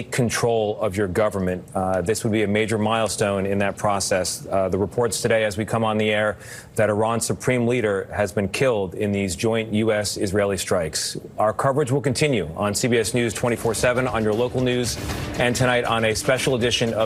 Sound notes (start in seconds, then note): none